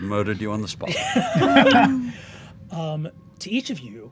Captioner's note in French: rires